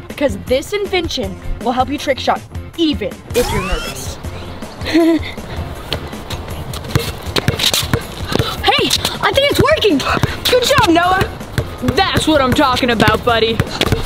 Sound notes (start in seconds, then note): 3.3 laughing nervously; 7.4 ball bouncing